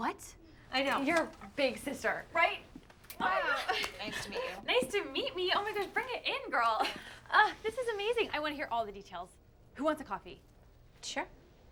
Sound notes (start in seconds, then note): 6.5 laughs